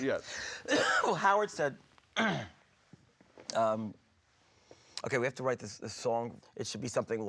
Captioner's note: coughs